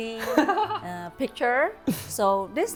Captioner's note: laughs